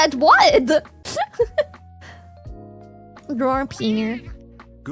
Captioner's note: laughs